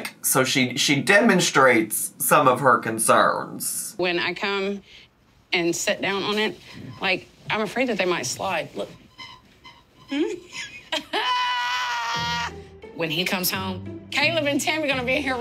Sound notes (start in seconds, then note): 9.0 bed creaking